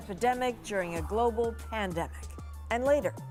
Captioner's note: sirens